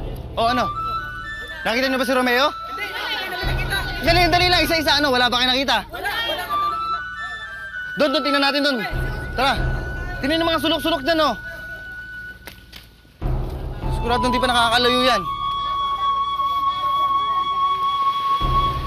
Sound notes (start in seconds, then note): 2.9 indistinct chatter